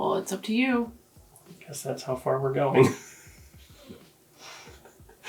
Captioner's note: laughs